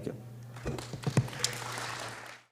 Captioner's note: applause